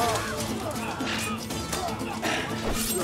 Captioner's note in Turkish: İnliyor